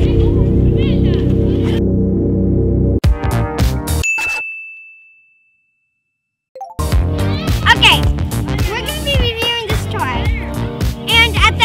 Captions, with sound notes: *DING* Okay. We're going to be reviewing this toy.